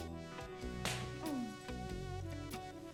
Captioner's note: smack